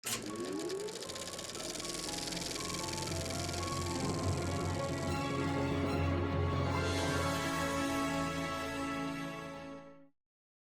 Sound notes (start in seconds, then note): 0.0 film reel clicking; 0.0 dramatic theatrical music